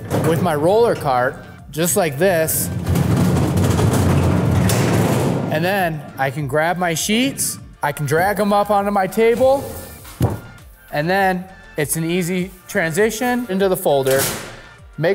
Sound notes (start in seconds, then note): 2.2 roller cart rumbling